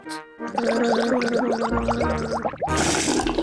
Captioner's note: gargles